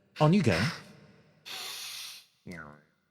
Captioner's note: inhale